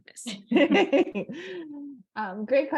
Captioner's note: laughter